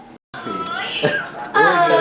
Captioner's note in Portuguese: Voz em off; Risadas